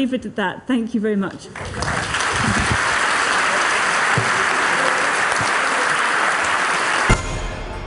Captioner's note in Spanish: aplausos